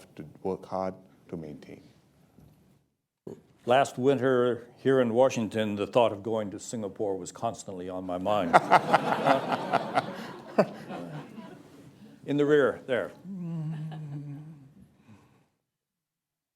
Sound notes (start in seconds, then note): 10.4 laughter